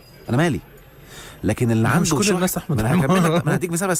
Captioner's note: laughs!